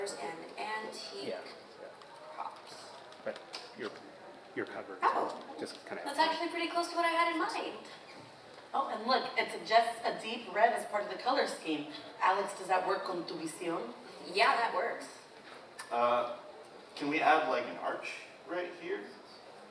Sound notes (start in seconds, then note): 13.1 speaks foreign language